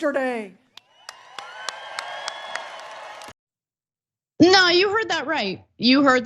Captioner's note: applause